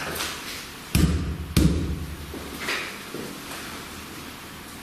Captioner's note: loud banging